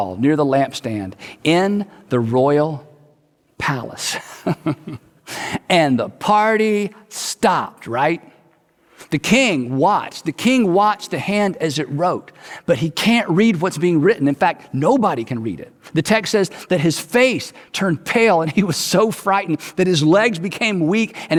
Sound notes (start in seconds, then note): 4.3 chuckles